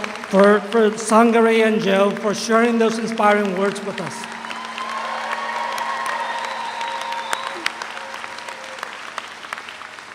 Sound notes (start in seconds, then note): 5.1 audience applauds